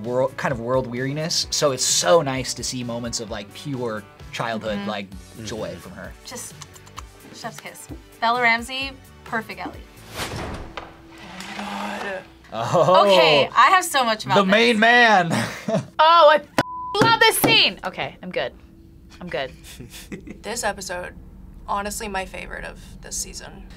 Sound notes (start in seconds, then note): 6.5 smooches; 15.3 chuckles